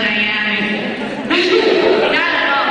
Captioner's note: laughing